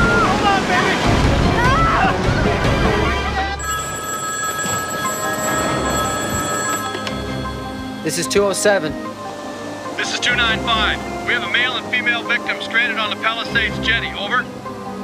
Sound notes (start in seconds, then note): 3.5 phone ringing